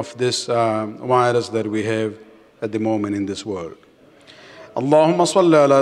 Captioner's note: Arabic